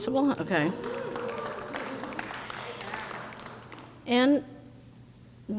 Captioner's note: crowd cheers